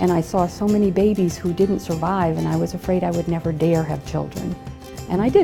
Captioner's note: none